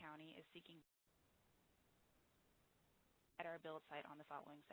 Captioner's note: audio break